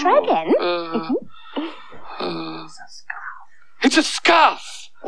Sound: whispers

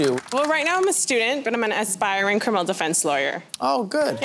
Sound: applause

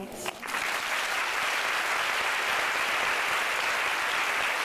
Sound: applause

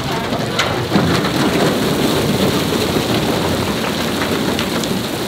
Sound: fish flopping

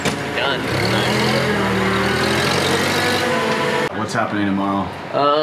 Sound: engine revs

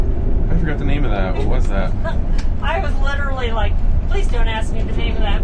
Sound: laugh

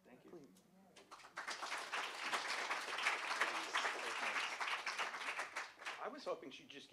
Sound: applause

